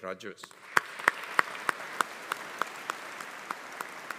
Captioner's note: audience applauding